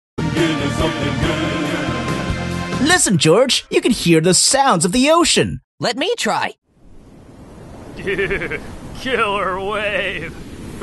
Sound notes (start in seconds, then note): 2.9 intro music; 6.8 waves